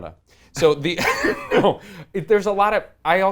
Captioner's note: laughs